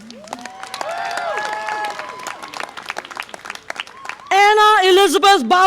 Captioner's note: audience applause and cheer